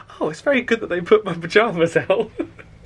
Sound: laughs

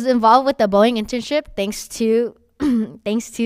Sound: coughs

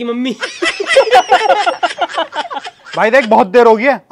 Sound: laughing

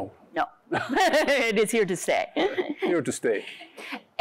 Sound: laughs

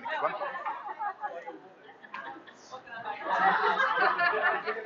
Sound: chattering

